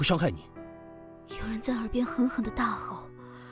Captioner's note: someone is shouting furiously in my ear